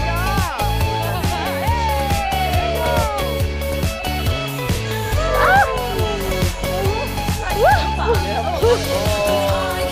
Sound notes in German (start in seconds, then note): 0.0 Jubel